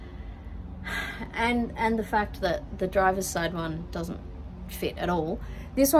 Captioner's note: sighs